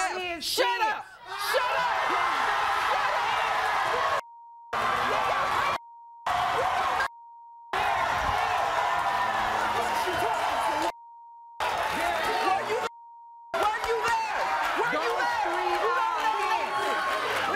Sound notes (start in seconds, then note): 4.8 audience screaming; 5.2 beeping